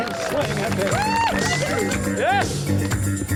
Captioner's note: audiance cheers and applause